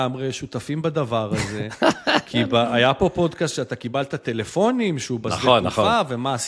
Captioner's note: laughter